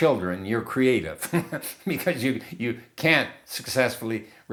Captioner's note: laughing